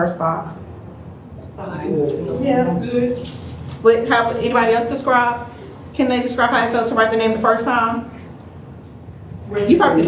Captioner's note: general sounds of approval